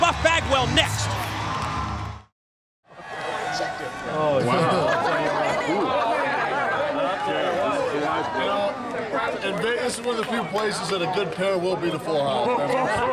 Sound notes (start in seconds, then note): 4.7 crowd chatter